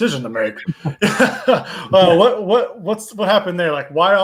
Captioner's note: all laugh